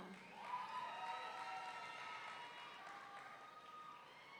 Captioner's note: audience cheering